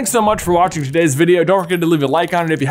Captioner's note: image fwipping